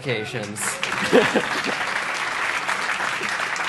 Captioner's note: applause